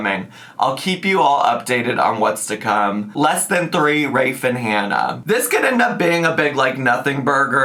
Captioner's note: none